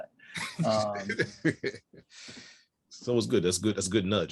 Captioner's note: laughs